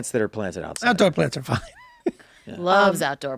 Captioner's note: laughs